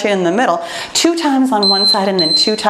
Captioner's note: timer beeps